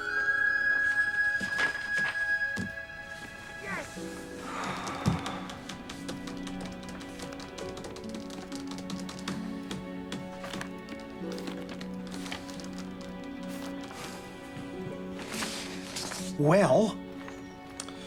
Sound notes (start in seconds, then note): 5.4 keys striking; 9.9 soft music